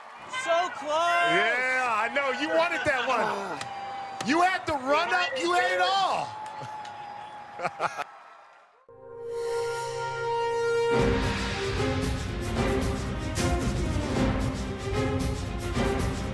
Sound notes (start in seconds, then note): 7.5 laughs